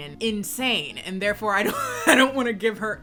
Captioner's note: laughs